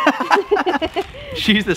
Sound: laugh

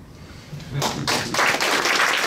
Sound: clapping

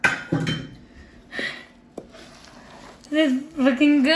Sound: breathing

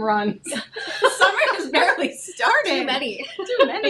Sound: both laugh

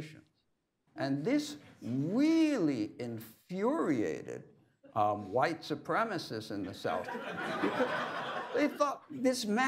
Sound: laughter

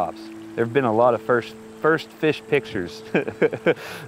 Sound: laughs

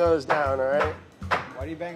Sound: muffin tin clanking

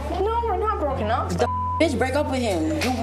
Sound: beep

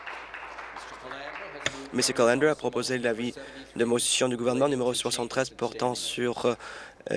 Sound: applause

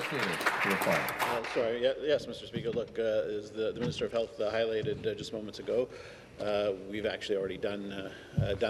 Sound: some Applause

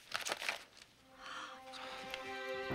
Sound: gasping

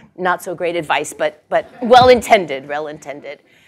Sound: laugh

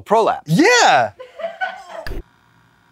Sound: crew laughing but also nauseated

